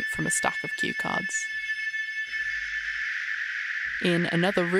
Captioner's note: falling electronic tone